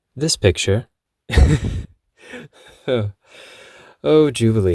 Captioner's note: chuckles